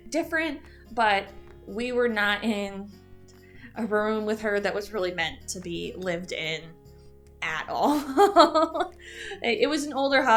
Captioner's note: chuckle